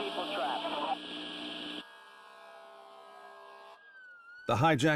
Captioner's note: sirens blaring